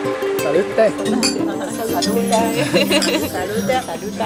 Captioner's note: glasses clinking